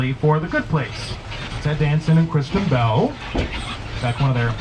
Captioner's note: none